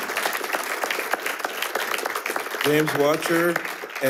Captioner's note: attendees applauding